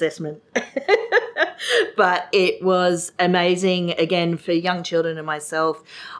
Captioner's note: laughs